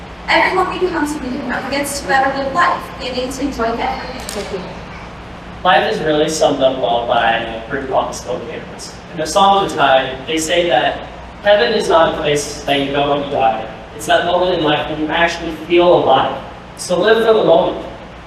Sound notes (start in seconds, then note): none